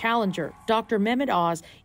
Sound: cheers and Applause

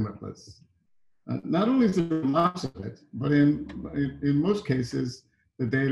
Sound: audio distorting

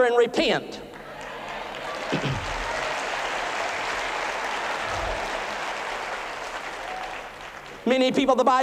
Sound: applause

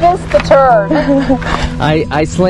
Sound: chuckles

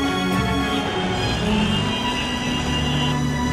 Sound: traffic noise

